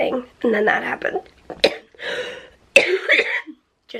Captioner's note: coughing